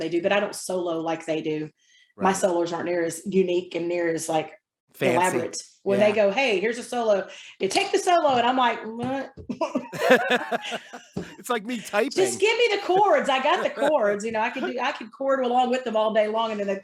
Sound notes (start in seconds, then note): 9.9 laughing